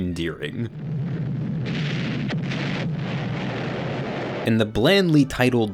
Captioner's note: bombs exploding